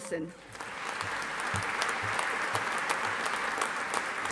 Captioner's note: audience applauding